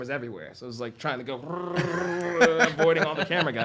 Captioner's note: vocalizes